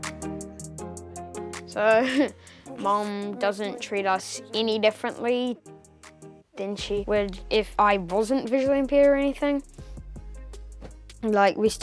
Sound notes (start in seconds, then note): 1.9 chuckles